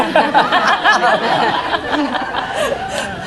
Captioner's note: laughing